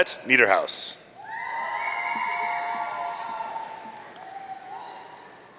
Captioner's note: audience cheering